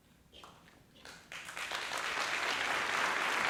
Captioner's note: applause